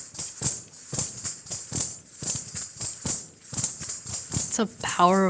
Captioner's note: bells chiming continues